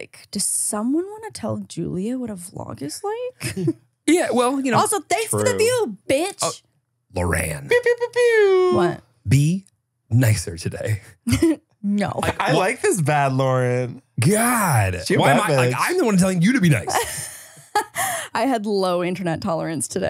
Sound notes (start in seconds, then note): 7.8 mimics air horn; 16.6 laughs